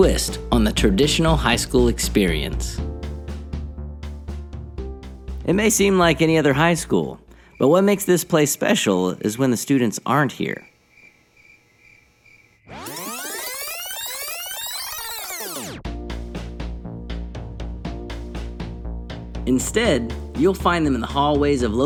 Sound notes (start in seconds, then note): 10.6 crickets; 16.0 upbeat music